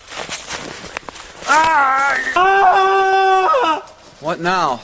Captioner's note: screaming